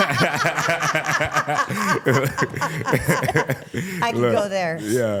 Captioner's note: laughs; laughing